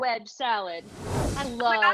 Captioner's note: air whooshing